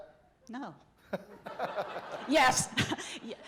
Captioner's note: laughter